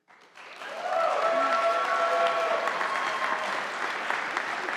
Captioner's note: audience applauding